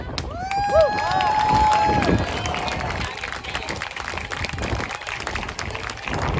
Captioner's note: cheers and whooping